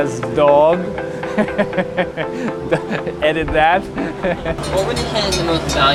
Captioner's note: laughs